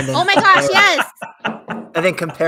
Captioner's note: laughs